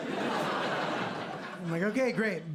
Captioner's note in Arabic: ضحك